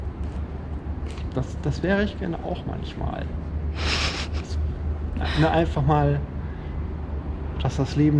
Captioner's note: laughs